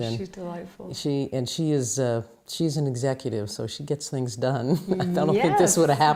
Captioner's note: laughs